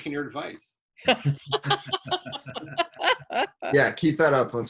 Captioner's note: laughing